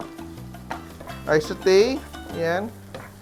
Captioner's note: sizzle